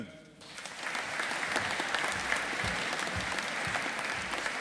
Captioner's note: audience applauding